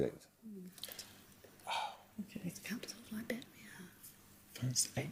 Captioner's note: muttering